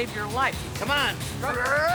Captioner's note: grunting